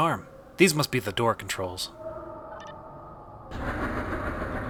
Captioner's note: controls beep; door opens loudly, echoing; wind howling